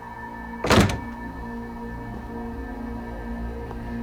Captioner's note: door slams shut